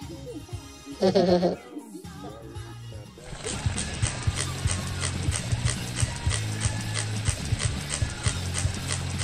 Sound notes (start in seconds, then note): 1.0 fake laugh